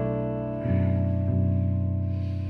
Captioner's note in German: Leises Ächzen